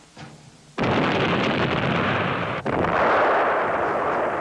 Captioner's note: explosion booming